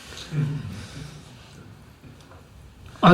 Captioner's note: laughter